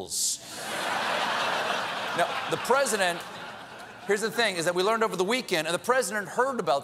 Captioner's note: laughter